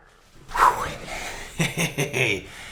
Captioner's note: sighs